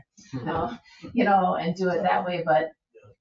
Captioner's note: people chuckle